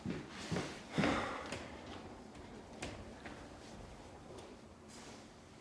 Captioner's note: footsteps climbing stairs